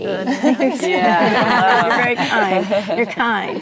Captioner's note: ladies reacting